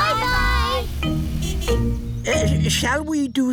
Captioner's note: horn honks